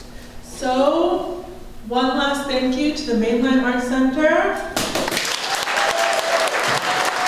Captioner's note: applause